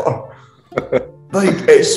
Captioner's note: laughing